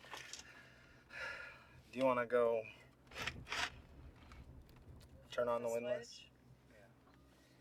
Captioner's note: sigh